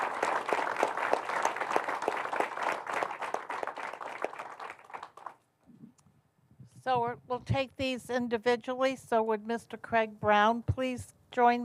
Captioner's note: applause